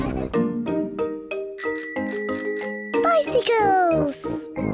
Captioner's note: bicycle bell ringing